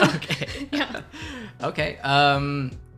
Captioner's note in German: beide lachen